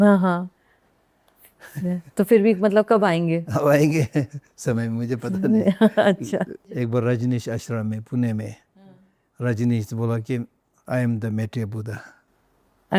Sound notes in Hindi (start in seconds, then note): 5.3 हंसी